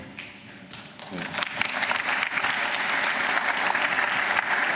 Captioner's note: applause